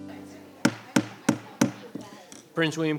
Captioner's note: gavel thudding